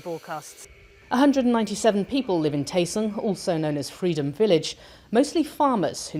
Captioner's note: voice-over